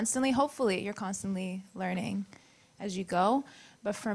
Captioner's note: none